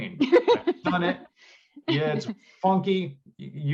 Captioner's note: laughter